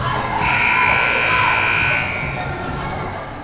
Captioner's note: buzzer